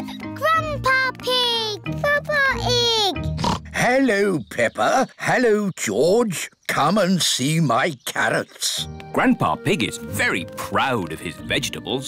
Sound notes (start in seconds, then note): 3.3 oinks